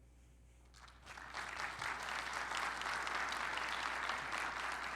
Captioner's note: audience applauding